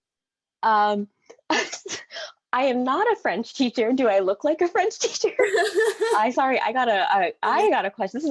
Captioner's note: giggles